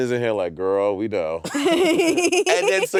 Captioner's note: laughing